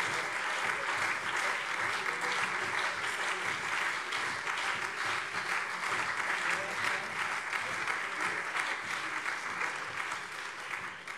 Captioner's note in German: Beifall CDU, SPD und BÜNDNIS 90/DIE GRÜNEN - Lachen AfD